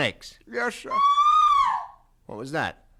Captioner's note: scream